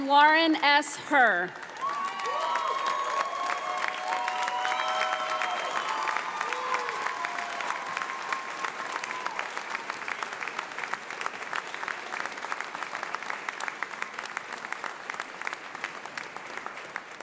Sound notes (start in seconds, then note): 2.0 audience applauds